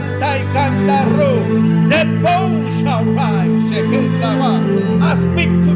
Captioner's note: hablando en lenguaje espiritual